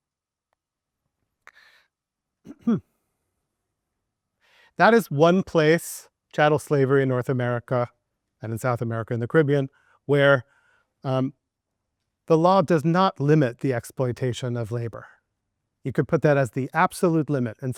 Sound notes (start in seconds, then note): 2.4 coughing softly